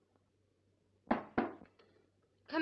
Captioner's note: knocking on door